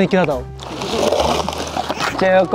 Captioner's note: pouring sound